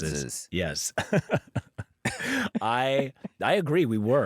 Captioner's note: laughs